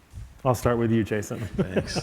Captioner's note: laughing